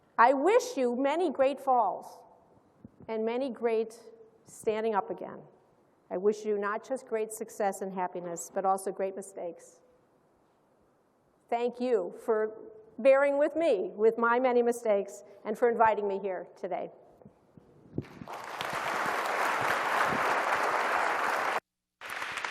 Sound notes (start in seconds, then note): 18.0 applause